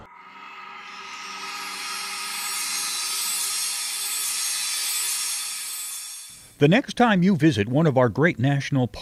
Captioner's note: sound Effects